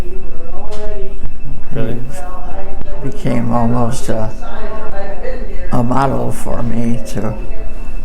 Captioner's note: people talking